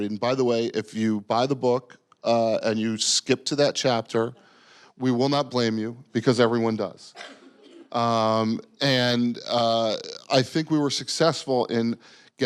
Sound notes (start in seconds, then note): 8.5 audience giggling